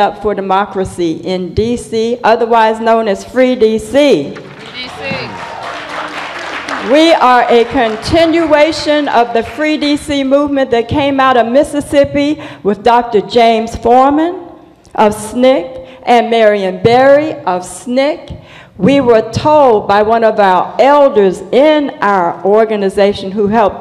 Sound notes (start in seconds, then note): 4.4 applause